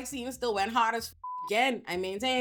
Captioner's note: beep